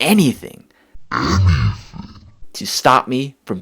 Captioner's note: in artificially deep voice